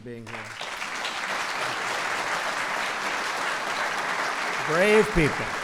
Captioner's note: applause